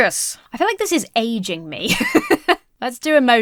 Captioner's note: laughs